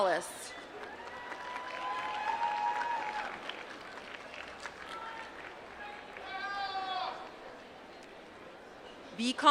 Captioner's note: applause